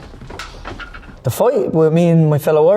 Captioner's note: metal clattering